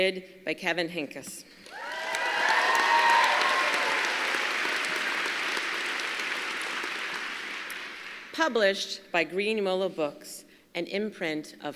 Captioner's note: applause